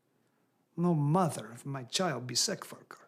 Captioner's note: none